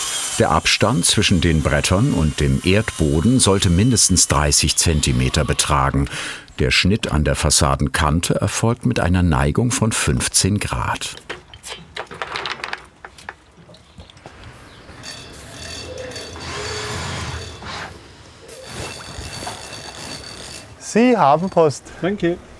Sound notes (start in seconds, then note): 15.0 quiet ratcheting, whirring of equipment